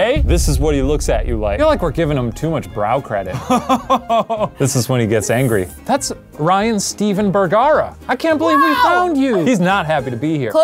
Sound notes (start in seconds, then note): 3.3 laughs